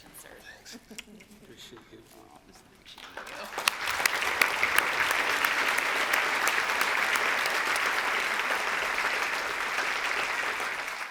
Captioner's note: applause